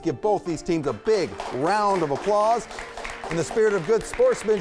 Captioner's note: applause